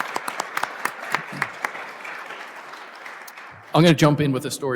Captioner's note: applause